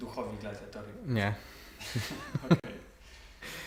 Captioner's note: laughter